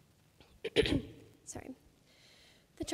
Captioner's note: clears throat